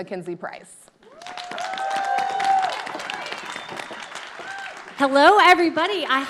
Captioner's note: audience cheering